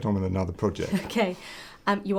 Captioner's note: laugh